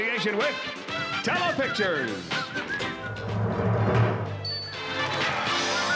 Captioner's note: whistling